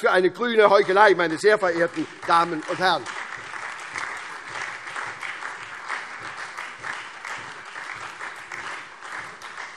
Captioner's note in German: Lebhafter Beifall SPD, Freie Demokraten und DIE LINKE